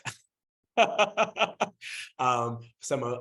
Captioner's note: laughing